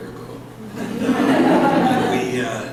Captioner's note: laughter